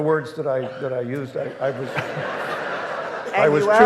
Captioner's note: audience laughing